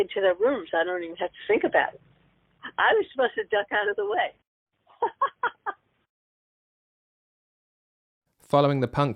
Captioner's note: laughs